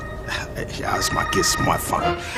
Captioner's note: phone rings